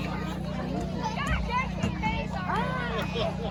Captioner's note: kids laughing